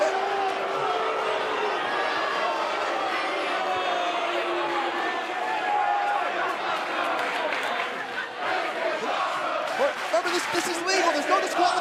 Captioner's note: cheers & boos; fans chanting